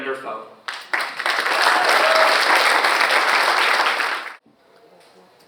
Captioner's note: audience applauds